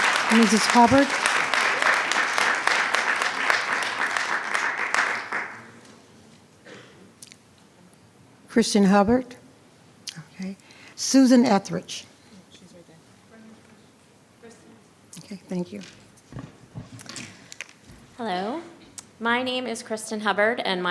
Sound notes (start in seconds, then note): 13.8 speaking faintly